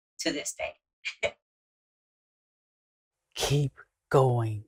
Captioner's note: chuckling